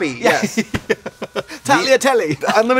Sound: laughing

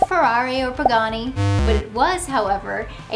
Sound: graphics buzz; graphics popping

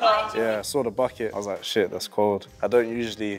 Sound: laughing

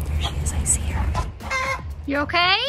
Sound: chicken growling

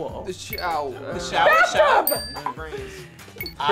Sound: bell dings

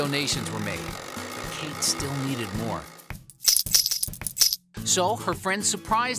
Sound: coins clinking

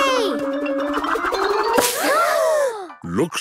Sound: all gasping

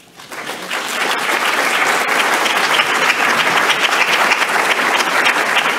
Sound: audience applauding

